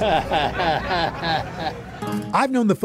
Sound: chuckles

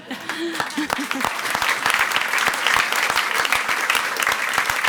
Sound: audience applauds

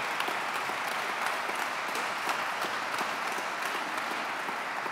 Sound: audience clapping

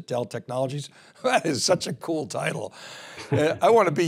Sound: chuckles

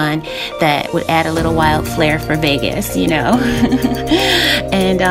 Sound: laughing

